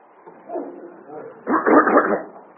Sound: audience laughter

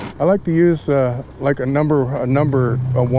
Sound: boat engine idling

